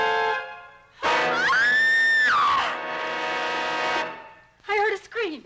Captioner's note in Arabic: ليندا تصرخ